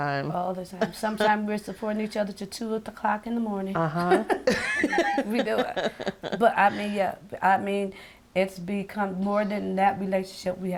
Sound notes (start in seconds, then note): 4.4 laughing